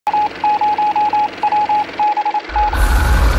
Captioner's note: rapid beeping; loud boom